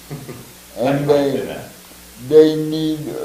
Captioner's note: laughs